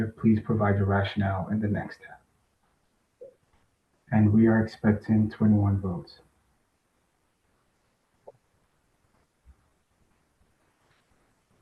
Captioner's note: pause